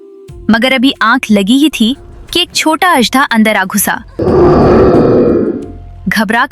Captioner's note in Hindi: कराहने की आवाज़